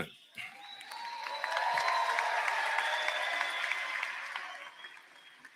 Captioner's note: cheers and applause